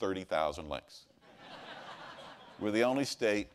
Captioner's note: laughter